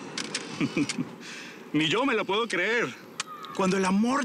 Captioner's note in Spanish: Ríe